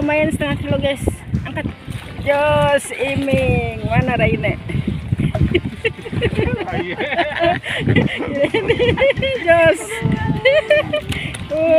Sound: laughs

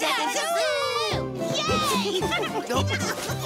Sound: cheering and laughing

